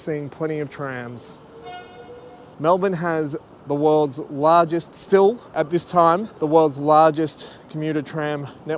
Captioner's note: horn beep